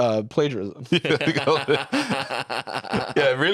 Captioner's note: all laughing